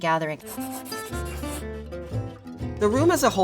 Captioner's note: graphic scratching; upbeat music